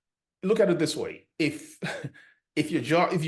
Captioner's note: chuckles